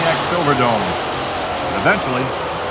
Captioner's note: voiceover; voiceover